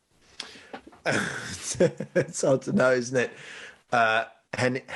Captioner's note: laughing